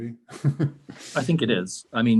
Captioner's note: chuckles